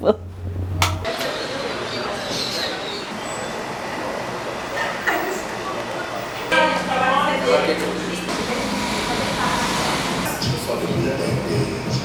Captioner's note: indistinct chatter